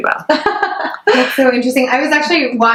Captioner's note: laughs